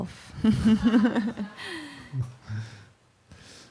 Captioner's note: laughter